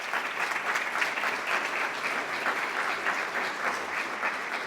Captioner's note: applause